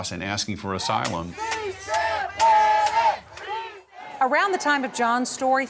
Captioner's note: protesters yelling